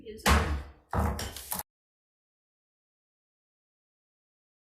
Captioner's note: gavel strikes